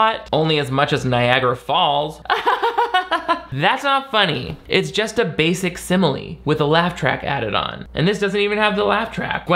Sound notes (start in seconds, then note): 2.2 laughs mockingly